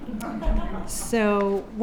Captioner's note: audience laugh